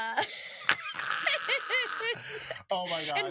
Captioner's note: both laughing